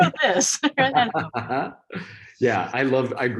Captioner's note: both chuckle